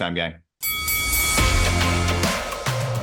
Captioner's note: bell ringing; upbeat music